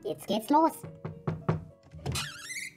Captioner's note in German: 5 x Klopfen